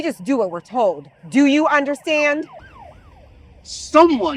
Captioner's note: sirens blaring